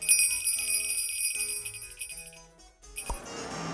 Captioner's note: jingling bells